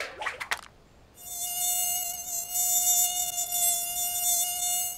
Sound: mosquito buzzing

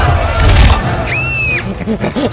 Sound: screaming

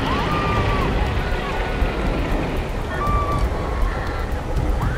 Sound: screaming

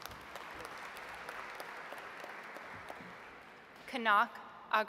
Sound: audience applauds

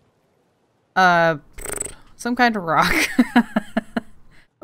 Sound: laughs

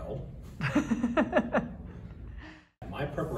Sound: laughter

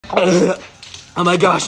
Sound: get bonk

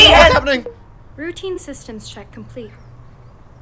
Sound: soft chime

